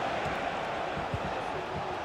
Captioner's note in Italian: Applauso